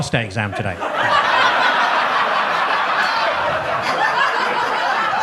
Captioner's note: audience laughs